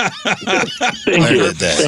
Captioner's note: laughing